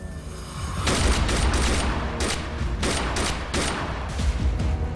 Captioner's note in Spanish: Disparos